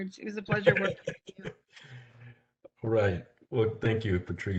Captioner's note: chuckling